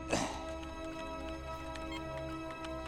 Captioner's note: clears throat